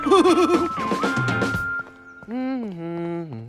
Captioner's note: hums to himself